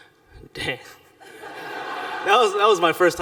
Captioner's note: laughter